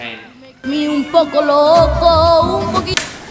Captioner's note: bopping